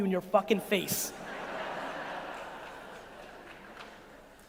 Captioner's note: audience laughing